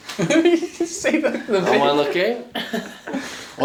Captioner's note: laughing